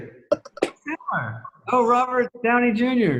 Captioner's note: laughs